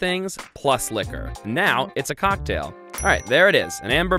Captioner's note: dings